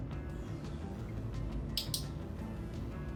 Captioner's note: click